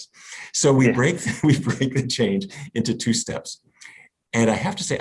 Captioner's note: laughs